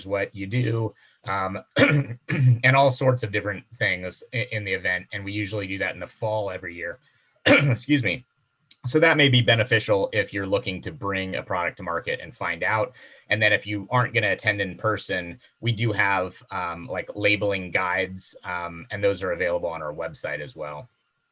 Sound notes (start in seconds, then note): 7.4 coughing